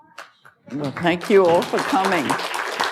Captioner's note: applause